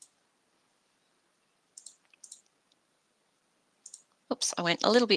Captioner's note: mouse clicking